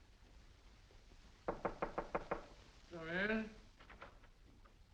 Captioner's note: knocks on door